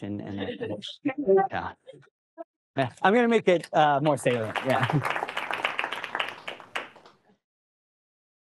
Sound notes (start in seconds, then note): 4.0 applause